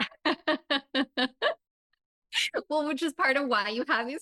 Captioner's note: laughing